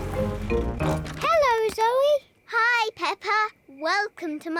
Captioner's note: oinks